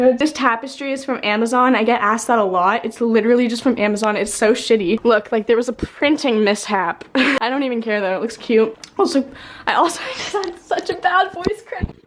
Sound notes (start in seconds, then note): 7.1 laughs; 10.1 voice cracks